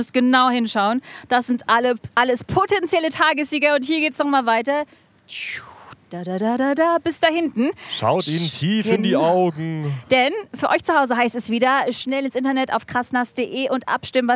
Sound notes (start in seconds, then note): 6.2 Sie summt